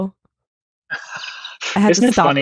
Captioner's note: laughing